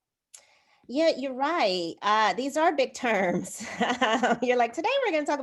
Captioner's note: laughter